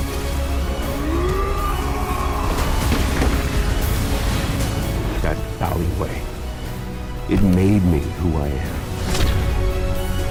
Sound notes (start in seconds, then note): 1.0 bane roars; 2.6 gunshots